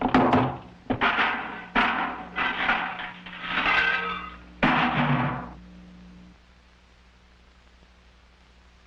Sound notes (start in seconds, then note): 0.8 crash!; 4.6 thump!